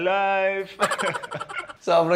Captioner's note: laughs